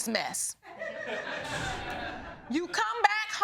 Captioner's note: audience laughing